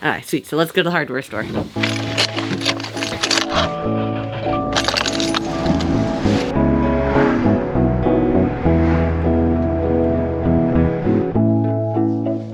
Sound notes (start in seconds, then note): 3.3 car engine starting; 9.9 car driving